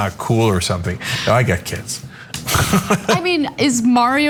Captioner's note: laugh